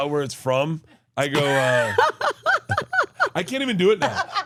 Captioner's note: laughs